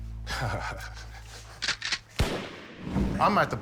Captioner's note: laughs; pistol cocks, fires